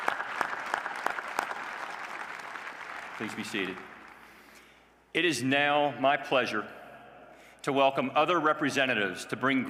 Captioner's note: applause